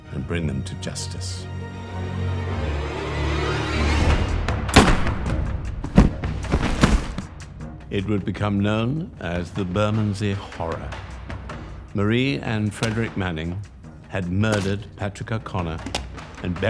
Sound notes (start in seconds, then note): 4.7 gun fires; 5.8 thuds